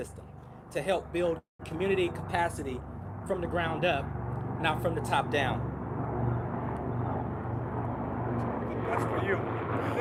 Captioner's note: helicopter flying over